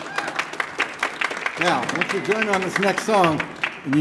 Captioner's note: audience applauding